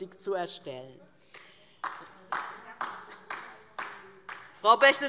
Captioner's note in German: Beifall DIE LINKE